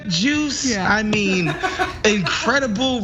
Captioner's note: laugh